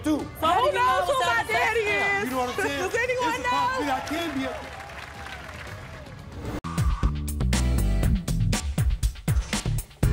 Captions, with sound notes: - Who knows who my daddy is? Does anyone know? (audience applauding)